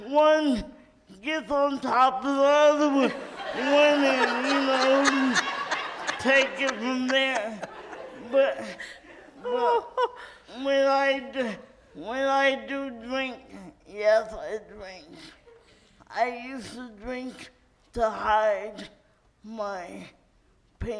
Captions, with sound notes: One gets on top of the other one. (audience laughs) And then, you know, we take it from there. But when I do drink, yes I drink, I used to drink to hide my pain.